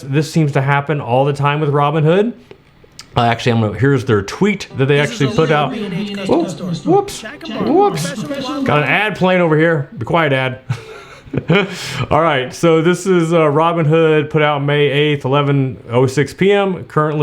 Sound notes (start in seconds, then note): 4.6 ad blaring; 11.4 laughs